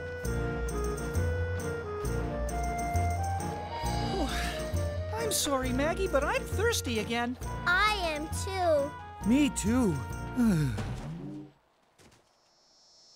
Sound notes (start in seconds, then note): 3.7 sighing; 10.4 gulping